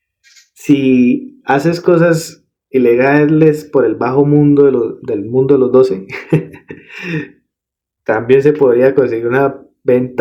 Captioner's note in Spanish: risas